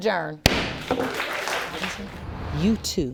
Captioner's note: audience applauding